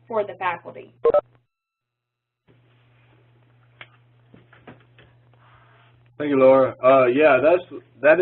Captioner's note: pause